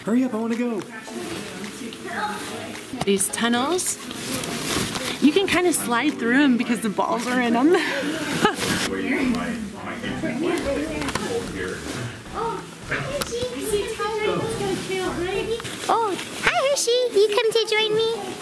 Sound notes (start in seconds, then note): 7.6 laughs; 9.0 people chattering